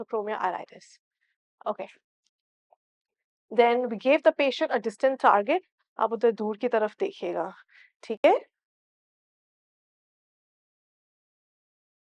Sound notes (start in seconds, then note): 5.9 in Urdu